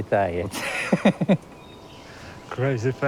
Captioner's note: laughs